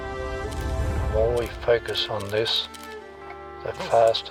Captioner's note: camera shutter clicks